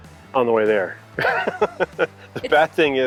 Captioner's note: laughing